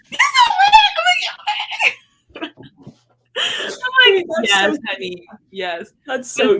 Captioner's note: high-pitched squealing